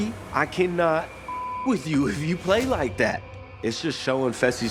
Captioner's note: beep